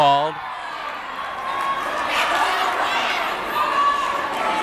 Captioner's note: yelling